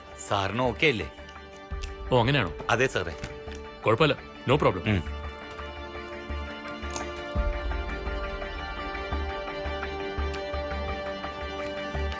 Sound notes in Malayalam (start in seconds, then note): none